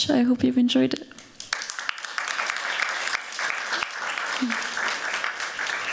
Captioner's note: applause